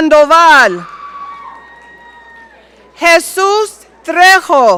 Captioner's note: audience cheering